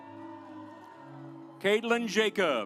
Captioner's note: audience applauds